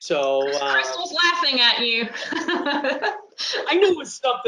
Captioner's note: laughs